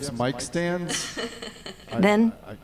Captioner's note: chuckling